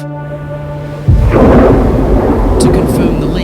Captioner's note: thunder rumbling